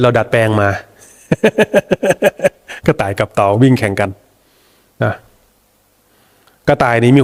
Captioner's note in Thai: เสียงหัวเราะ